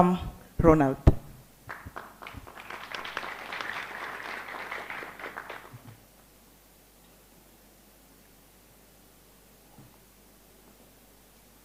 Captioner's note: applause